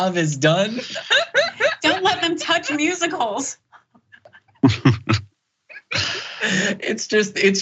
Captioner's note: laugh